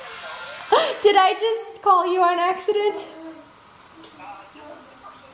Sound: laughing; laughing

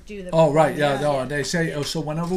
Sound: voiceover

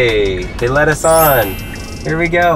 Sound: chimes

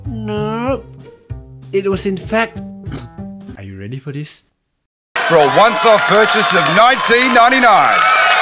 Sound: coughs

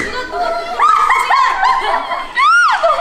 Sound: suddenly it's a suppressing laughter challenge

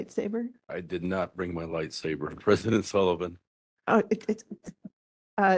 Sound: laugh

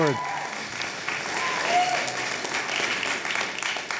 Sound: cheering and applause

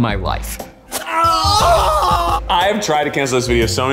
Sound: screams

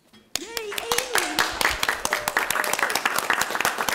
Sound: crowd applauds

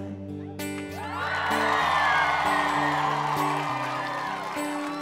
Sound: crowd cheering

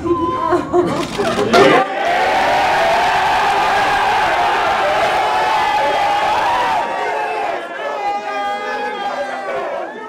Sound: cheers from andrew's teammates

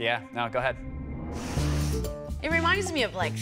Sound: sniffs

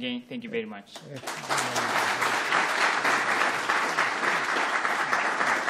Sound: audience applauding

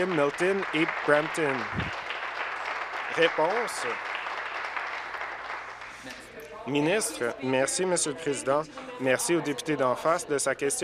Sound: applause

